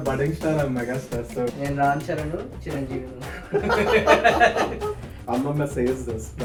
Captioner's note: laughs